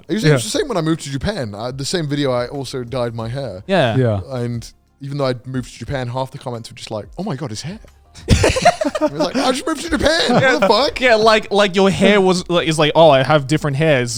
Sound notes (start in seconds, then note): 8.2 laughing